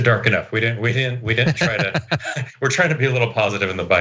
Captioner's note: laugh